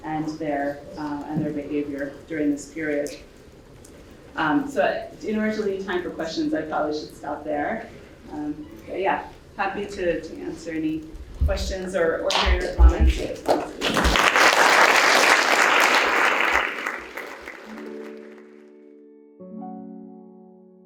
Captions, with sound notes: and their behavior during this period. So in order to leave time for questions, I probably should stop there. But yeah, happy to answer any questions or hear your comments. (audience applauding) (calm music)